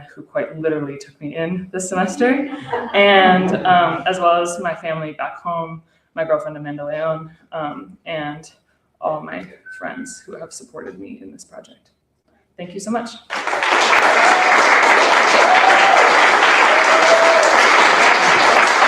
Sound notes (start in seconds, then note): 13.2 applause